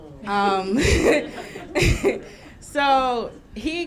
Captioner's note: laughing